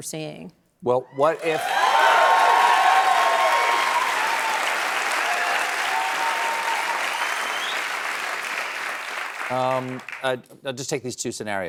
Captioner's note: cheers and applause